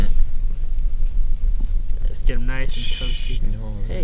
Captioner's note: both chuckle